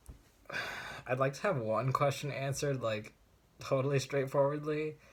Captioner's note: sigh